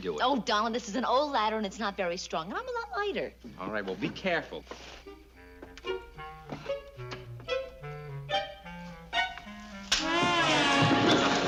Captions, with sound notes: Oh, Donald, this is an old ladder and it's not very strong -and I'm a lot lighter! -All right. Well, be careful. (snap)